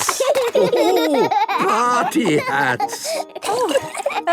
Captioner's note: laughing